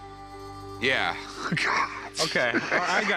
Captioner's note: laughter